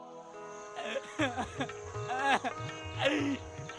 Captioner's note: sobbing, crying